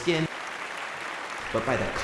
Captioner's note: applause